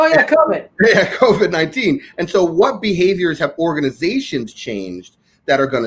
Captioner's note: laughs